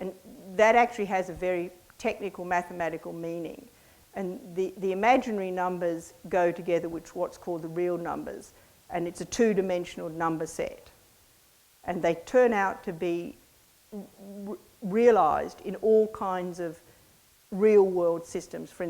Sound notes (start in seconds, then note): none